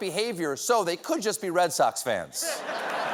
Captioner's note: applause; laughter